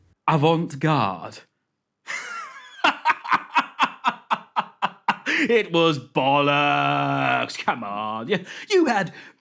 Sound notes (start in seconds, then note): 2.0 derisive laugh